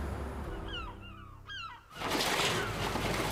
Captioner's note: seagulls cawing